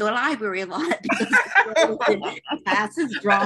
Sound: laughs

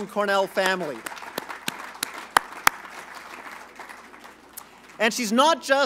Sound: applause

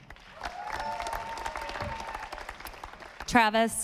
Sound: audience applauding

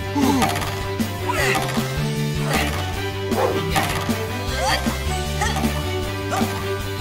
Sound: bouncing

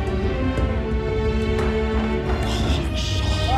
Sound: men muttering; screaming

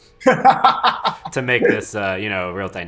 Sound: laughs

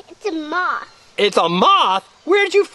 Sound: voiceover

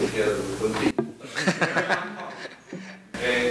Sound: laughter

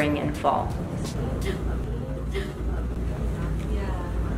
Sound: gasps

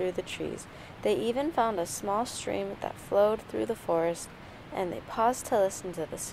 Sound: babbling brook sound

